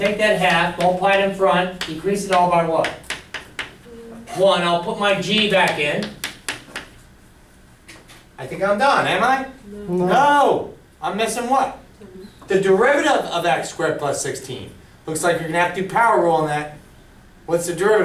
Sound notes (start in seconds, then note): 10.0 voiceover